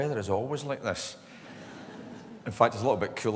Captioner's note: laughter